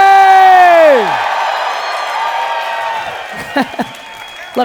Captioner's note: audience cheering; laughing